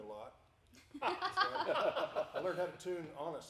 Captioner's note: group laughing